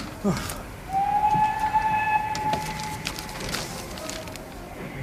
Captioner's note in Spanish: Suena el pitido del tren